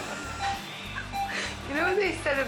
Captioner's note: laughing; audience laughing; machinery beeping